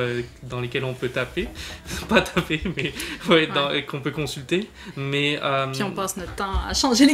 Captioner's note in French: rire